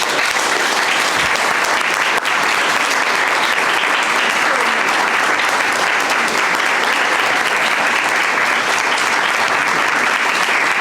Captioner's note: applause